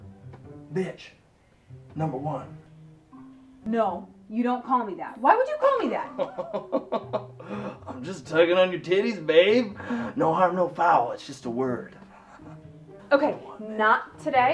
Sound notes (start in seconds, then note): 6.0 chuckling